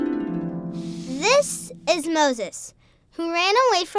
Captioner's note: harp music; voiceover